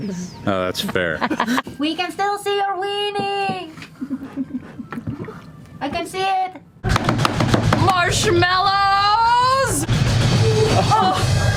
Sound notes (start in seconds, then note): 1.7 shouting